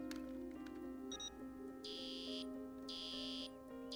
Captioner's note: beeping